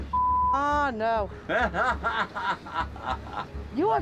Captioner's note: man laughs